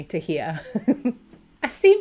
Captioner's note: laughing